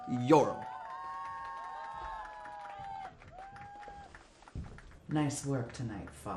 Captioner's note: crowd cheering and applauding